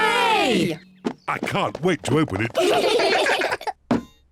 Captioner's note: all giggle